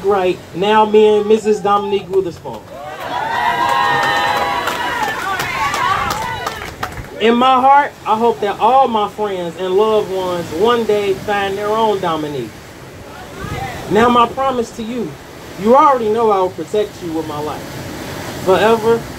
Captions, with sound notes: Ms. Dominique right now being Mrs. Dominique Wittherspoon [Audience cheers] In my heart, i hope that all my friends and loved ones one day will find their own "Dominique" No my promise to you, you already know I will protect you with my life .. forever